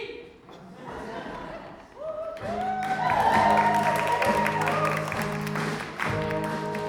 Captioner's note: audience laughs and cheers